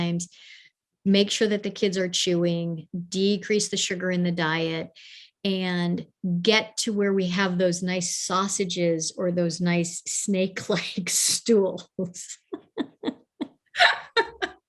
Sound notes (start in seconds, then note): 12.5 both laugh